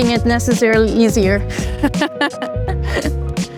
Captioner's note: laughs